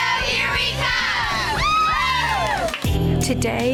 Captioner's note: women cheering